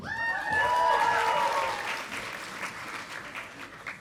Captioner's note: audience applauding